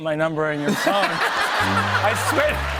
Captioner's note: fog horn